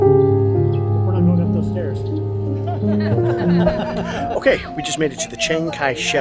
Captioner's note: laughing